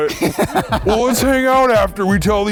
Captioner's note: laughs